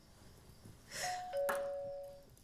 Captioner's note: doorbell rings